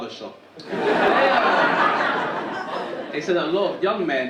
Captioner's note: audience laughing